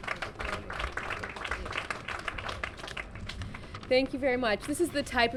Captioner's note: applause